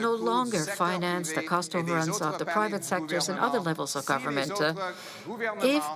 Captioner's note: speaking French